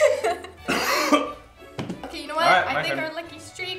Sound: retching cough

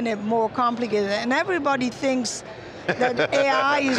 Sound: laughs

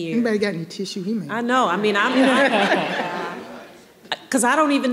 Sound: audience laughing

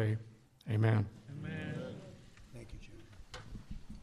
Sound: crowd

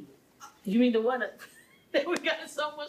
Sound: laughing

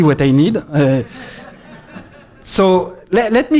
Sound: laughter

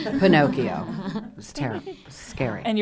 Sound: laughing

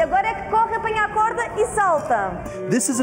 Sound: speaking foreign language

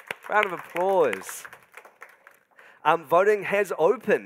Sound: audience applauding

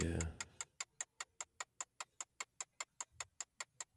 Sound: ticking

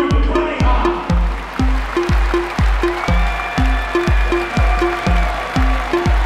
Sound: crowd applauding

